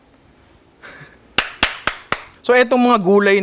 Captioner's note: claps